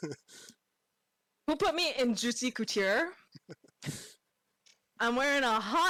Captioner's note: laughs; laughs